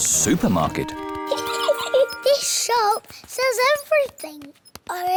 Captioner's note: giggles